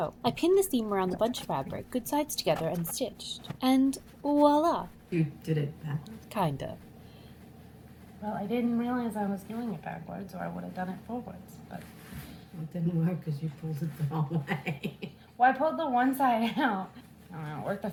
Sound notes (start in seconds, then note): 14.5 mom-laughing